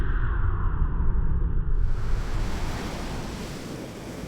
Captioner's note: waves crashing